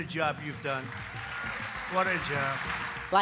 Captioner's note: crowd applauds